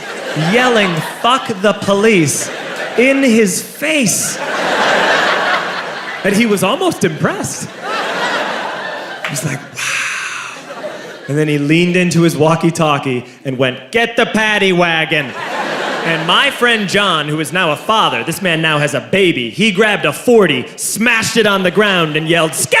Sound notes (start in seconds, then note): 4.3 crowd laughs; 7.8 crowd laughs